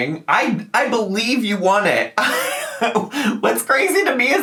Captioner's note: laughing